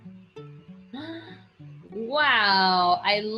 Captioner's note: Sophie gasps